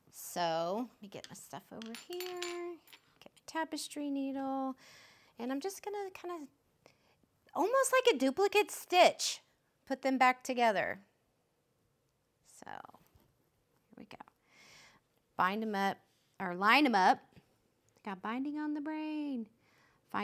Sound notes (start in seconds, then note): 1.7 needles clinking